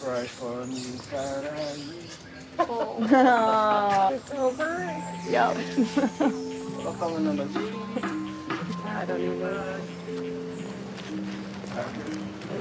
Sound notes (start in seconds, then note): 5.5 laughing; 9.4 soft music